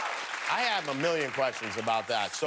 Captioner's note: cheers and applause